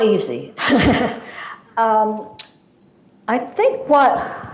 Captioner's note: laughs